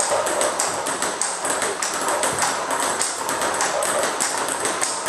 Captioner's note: ball ping pong hitting continues